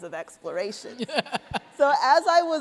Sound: laughter

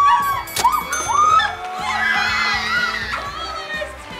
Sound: yelling; cheering; winning bell

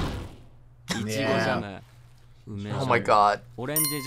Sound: character speaking in foreign language; bell dings

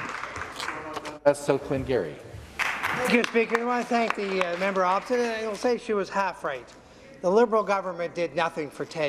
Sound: applause

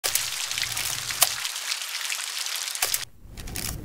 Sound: ambient sound of rainfall

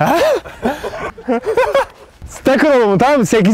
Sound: the crew laughs

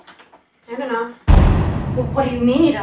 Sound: intense Boom Sound Effect

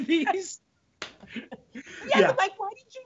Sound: both laughing

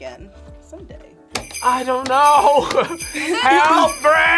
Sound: laughs

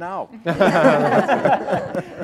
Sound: laughter

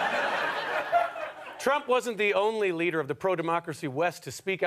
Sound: audience laughter

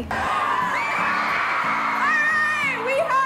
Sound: students cheering

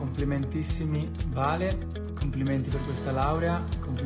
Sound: non-english speech

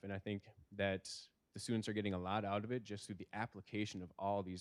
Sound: none

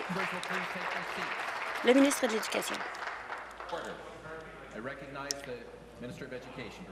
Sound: applause

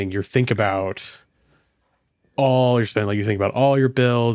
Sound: none

